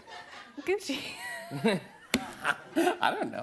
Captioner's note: laughs